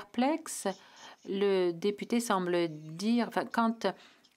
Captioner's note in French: voix de l'interprète